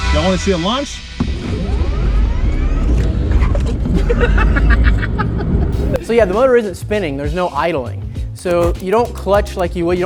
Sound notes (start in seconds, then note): 3.6 laughs